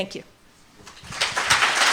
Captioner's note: applause